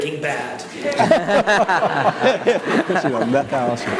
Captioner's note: all laugh